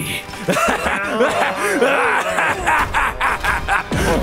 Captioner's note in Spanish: risa malvada